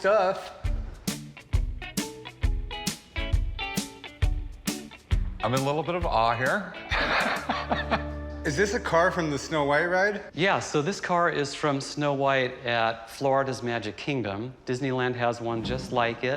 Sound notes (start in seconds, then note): 0.2 funky music plays; 6.8 laughs